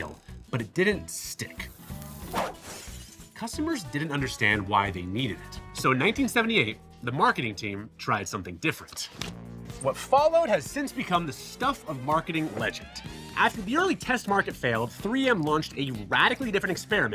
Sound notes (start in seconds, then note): 2.1 logo whooshes and clatters